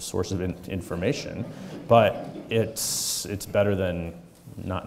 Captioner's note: audience chuckling